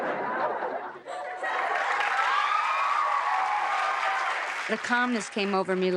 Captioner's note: laughter